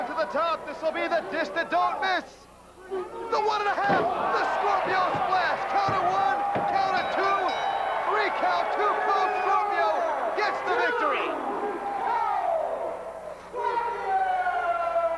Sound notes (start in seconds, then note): 6.6 bell ringing; 8.4 crowd cheering